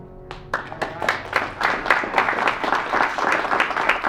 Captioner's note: audience applauds